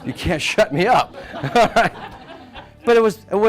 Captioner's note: audience laughing